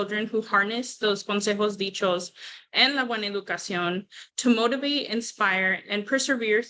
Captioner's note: non-english speech